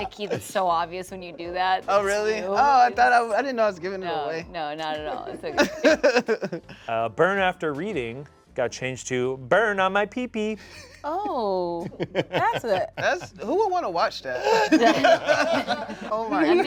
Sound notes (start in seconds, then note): 5.1 laughs; 11.8 laughs